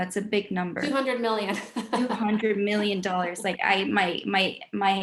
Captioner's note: laughs